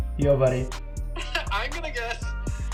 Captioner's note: laughs